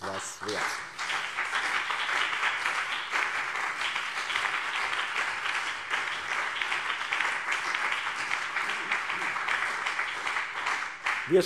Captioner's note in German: Beifall BÜNDNIS 90/DIE GRÜNEN und CDU